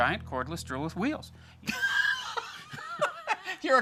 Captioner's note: laughs